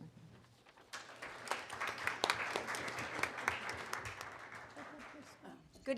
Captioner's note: applause